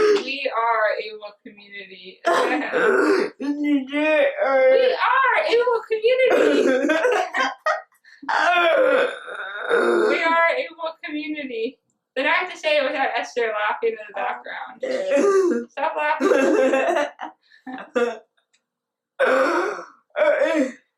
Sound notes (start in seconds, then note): 2.5 more serious but slightly sarcastic and monotone; 4.5 laughing; 6.2 laughing; 15.1 laughing; 16.1 teasing voice